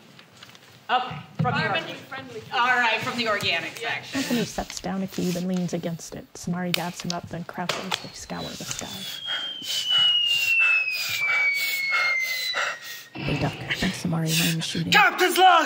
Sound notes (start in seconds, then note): 9.0 Anthony breathes heavily. A bomb drops; 13.9 “pew pew” sounds